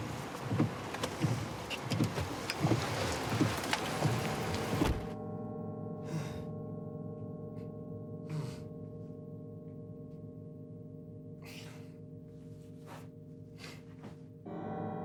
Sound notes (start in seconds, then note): 5.1 tense music; 6.1 Jacob groans